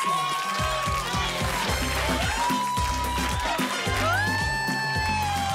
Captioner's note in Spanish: Gritos y exclamaciones; Gritos